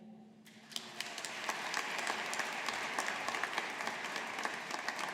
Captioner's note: audience applauding